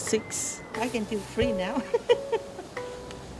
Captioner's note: laughs